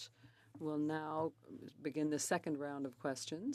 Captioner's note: speaking French